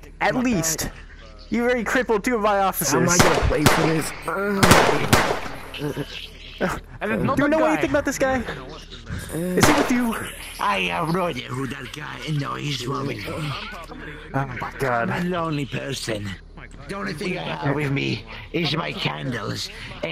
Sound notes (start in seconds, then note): 3.0 dying sounds; 3.0 gunshots; 9.6 gunshot